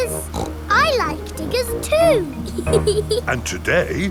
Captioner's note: snorts; laughs